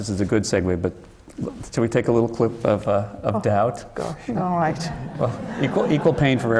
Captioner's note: laughter